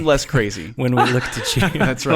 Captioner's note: men laughing